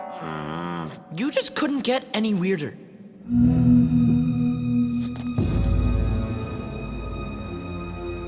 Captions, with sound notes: You just couldn't get any weirder. [eerie sound]